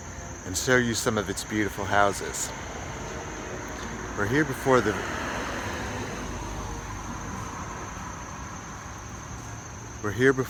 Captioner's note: car noise